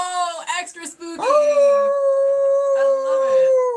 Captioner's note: screaming